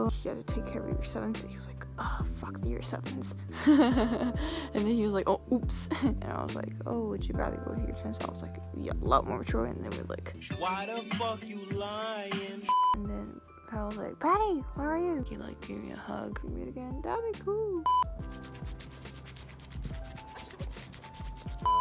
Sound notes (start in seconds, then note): 3.5 hehes; 3.6 laughs